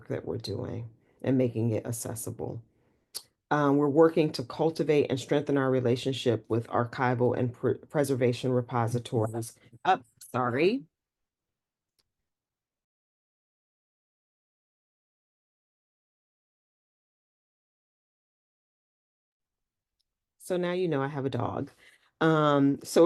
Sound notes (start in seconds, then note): 9.2 mutes/unmutes microphone